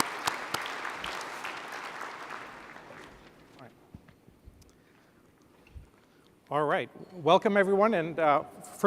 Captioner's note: applause